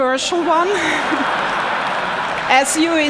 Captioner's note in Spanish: Risas